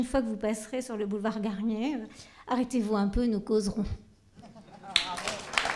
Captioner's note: applause